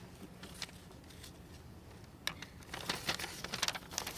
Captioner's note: paper turning